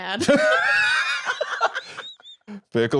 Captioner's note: laugh